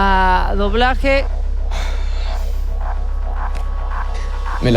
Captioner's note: sighs in chilean